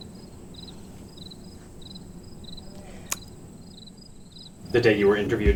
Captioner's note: crickets